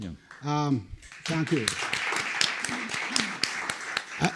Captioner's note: applause